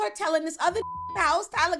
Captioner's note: beep